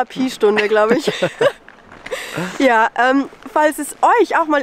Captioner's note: laughs